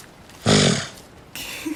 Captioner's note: snorts; Rin and Ara laugh